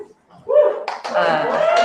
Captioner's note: cheering; applause